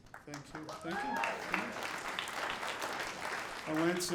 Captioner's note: audience applauding